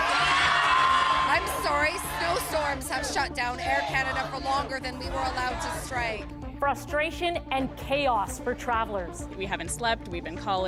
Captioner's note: cheers and Applause